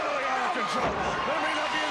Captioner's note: crowd cheering